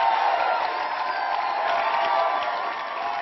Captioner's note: applause